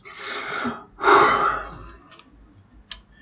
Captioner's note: sighs